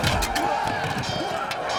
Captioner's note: metal clanging